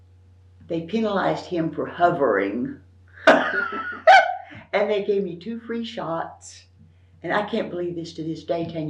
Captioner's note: laughs